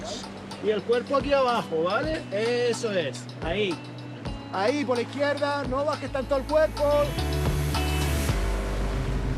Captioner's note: instructing in Spanish